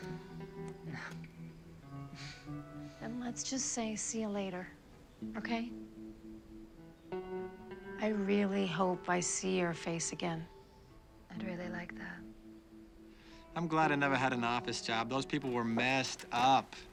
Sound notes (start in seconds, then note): none